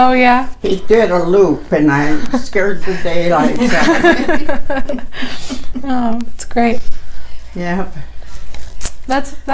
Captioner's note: laughter